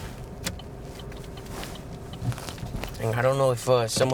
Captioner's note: indicator blinking